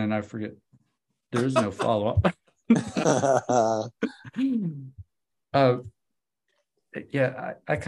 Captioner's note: laughs